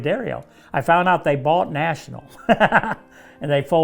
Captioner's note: laughs